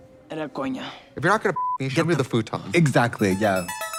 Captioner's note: beep